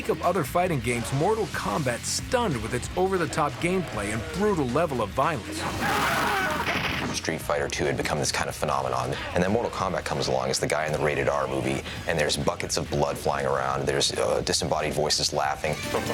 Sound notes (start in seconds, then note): 0.0 fighting sounds; 5.7 screaming